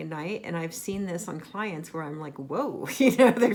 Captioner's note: laughs